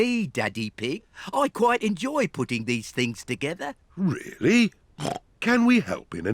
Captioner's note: snorts